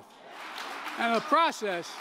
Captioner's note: cheering